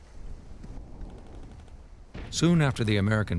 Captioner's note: gunshots firing